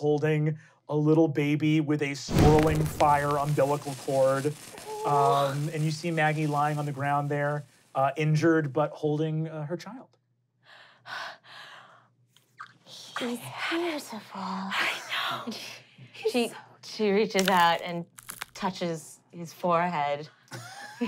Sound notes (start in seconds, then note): 11.0 gasping; 20.8 laughing